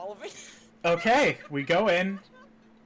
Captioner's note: laughing